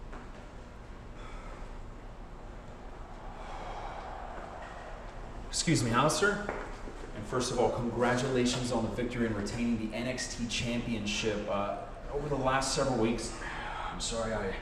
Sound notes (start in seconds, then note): 3.0 breathing hard